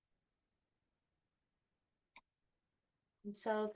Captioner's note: silence